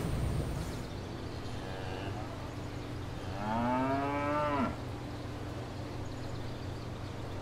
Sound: birds chirping; cattle mooing

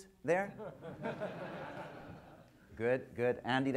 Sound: audience laughter

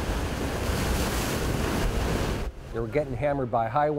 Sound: water crashing

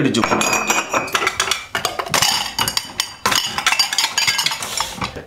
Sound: things clatter

